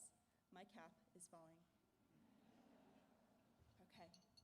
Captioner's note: laughter